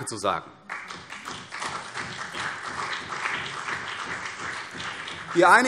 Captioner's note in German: Beifall CDU und BÜNDNIS 90/DIE GRÜNEN